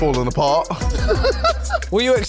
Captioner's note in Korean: 웃음